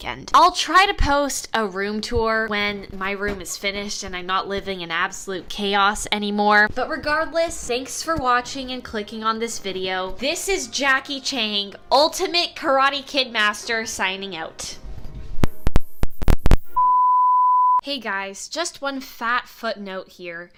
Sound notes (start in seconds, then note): 14.8 microphone muffles; 16.0 electronic beep